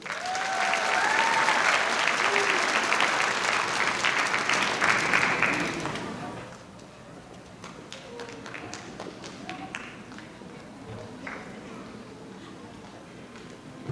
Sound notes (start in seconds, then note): 0.0 audience applauding; 6.5 children chattering